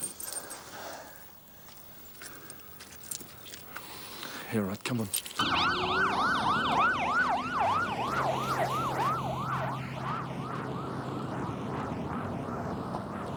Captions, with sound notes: - Yeah, all right, come on. (sirens wailing)